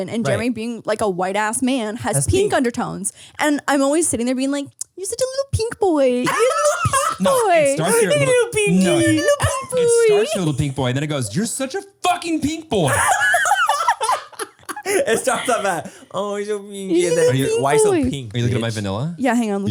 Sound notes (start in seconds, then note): 12.7 laugh